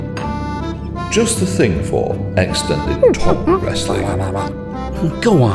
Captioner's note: ape noises